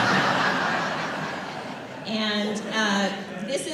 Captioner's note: laughter